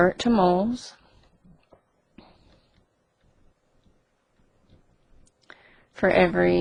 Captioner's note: silence